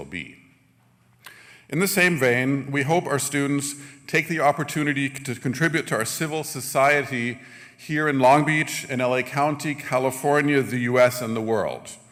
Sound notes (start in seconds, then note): none